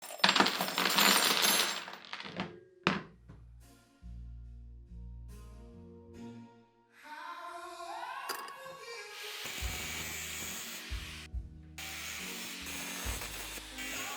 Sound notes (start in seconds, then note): 0.2 metal clatter